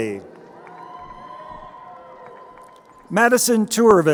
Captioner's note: crowd cheering